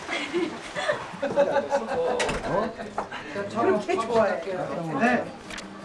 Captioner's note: They laugh at smiley Sol